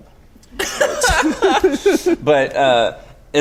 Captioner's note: laughing